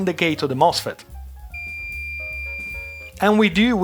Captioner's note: beeping